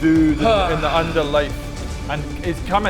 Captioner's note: sigh